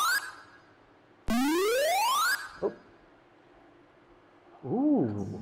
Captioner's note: video games beeping